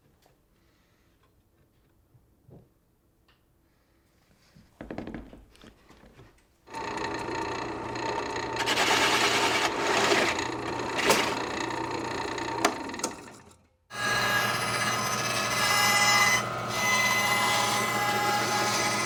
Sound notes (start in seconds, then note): 8.7 drill whirring; 16.3 saw grinding